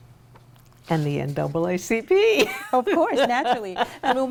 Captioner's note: laughs